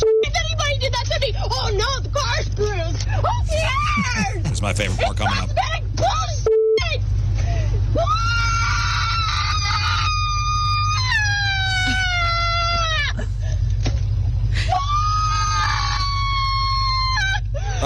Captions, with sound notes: (Beep) if anybody did that to me. Oh no, the car spoons. Oh yeah. That's my favorite part coming up. It's cosmetic, bull (Beep) (Screaming)